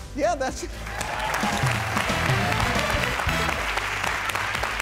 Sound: clapping

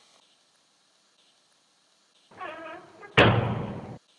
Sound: door creaks and slams shut

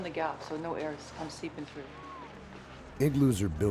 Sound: voiceover

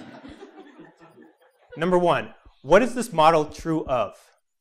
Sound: laugh

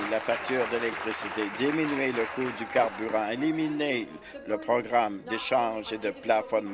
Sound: applause

